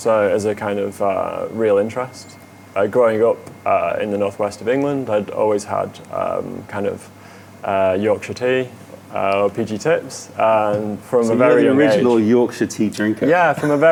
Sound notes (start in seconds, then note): 13.6 laughter